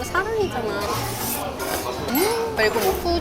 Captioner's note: slurp